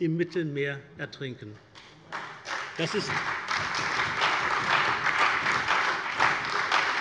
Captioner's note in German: Allgemeiner Beifall